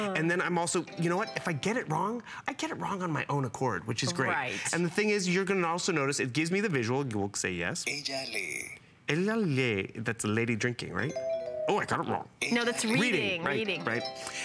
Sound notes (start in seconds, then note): 9.1 foreign language